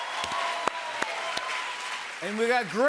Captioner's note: cheers and applause